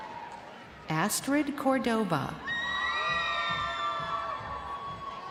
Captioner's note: crowd cheering